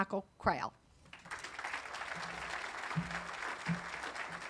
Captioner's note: audience applauding